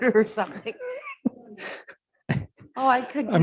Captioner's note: laughs